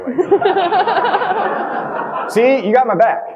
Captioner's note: audience laughing